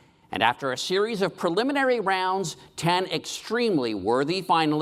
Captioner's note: none